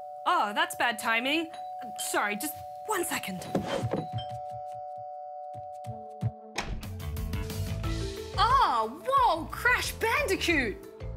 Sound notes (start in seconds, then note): 0.0 doorbell rings; 3.6 doorbell rings